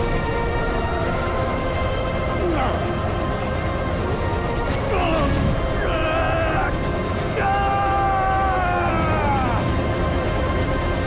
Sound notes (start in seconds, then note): 2.4 grunting; 7.2 screaming